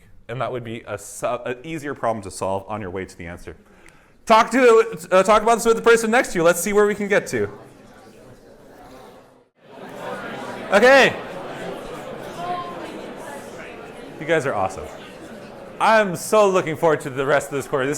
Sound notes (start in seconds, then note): 7.5 indistinct chatter